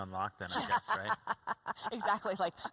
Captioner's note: laughs